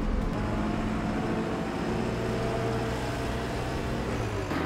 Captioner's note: engine revving